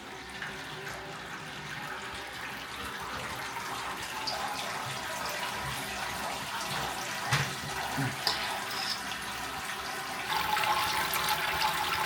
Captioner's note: sound of pouring wort ASMR